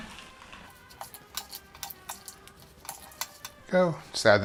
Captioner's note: rapid clicking